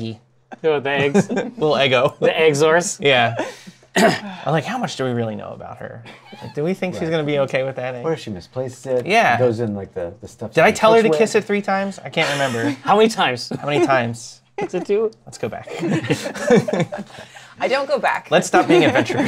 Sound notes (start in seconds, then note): 15.6 laughter